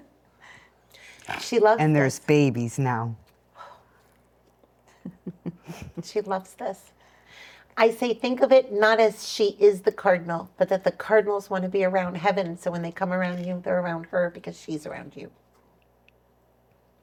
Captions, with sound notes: She loves her. And there's babies now. (laughs) She loves this. I say, think of it not as she is the Cardinal, but that the Cardinals want to be around Heaven. So when they come around you, they're around her because she's around you.